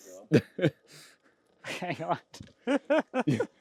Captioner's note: men laughing